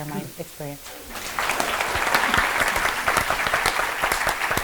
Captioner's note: applause